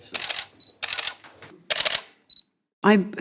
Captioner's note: camera clicking